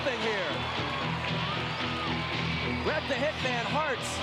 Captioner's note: audience cheering